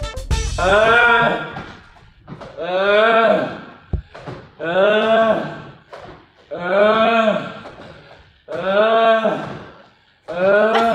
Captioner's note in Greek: αγκομαχάει; Γέλια